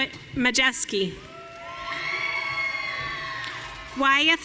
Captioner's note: audience cheering